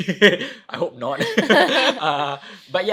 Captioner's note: both laughing